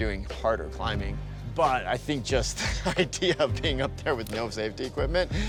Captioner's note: laughing